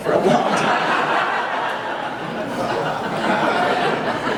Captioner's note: audience laughing